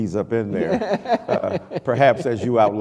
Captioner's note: laughter